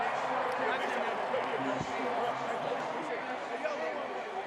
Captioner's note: chatter